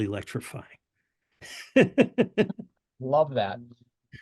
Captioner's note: laughter